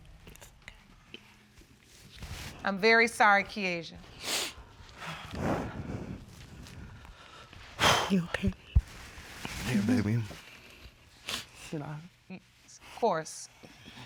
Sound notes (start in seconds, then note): 4.2 sniffles; 8.7 exhales